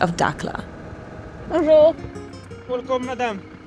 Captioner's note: speaks foreign language; guard speaks foreign language